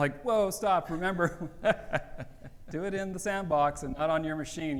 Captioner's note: laughs